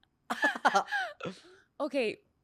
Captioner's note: laughs